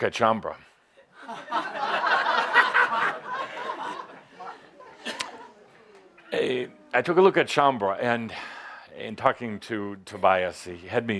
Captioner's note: laughter